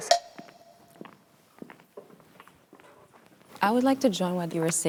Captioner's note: footsteps tapping